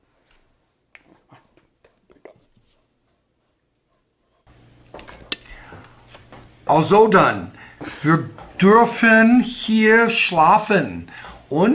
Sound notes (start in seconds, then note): 6.1 speaking german